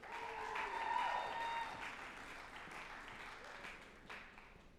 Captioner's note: group applauding and cheering